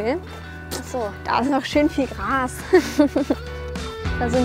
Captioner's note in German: Kichern